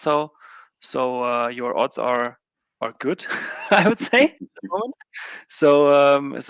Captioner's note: laughing